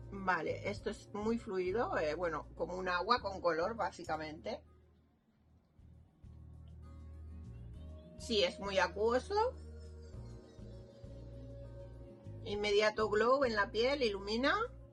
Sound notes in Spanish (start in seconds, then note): none